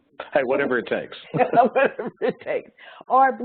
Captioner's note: laughs